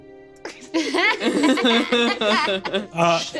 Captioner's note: laughs